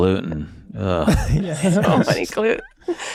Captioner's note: groans